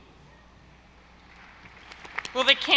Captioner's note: audience applauding